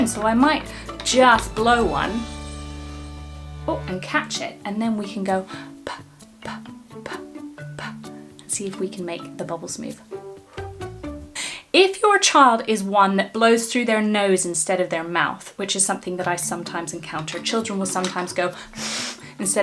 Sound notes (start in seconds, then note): 10.5 blows air; 18.6 blows through nose